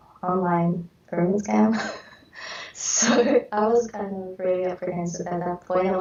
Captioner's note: chuckles